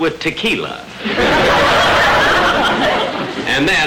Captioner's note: audience laughter